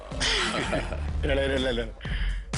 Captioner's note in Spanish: Exclamaciones y risas